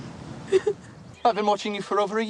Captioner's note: crying